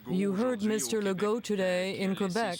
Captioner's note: speaking French